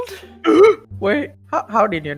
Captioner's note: deep breath